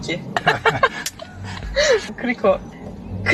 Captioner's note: chuckling